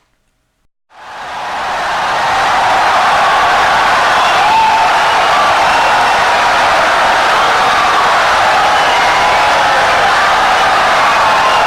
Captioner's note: wild applause and cheering for 17 seconds